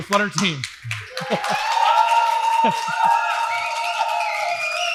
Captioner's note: applause